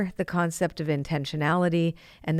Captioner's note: none